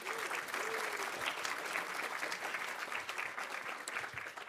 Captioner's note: audience applauding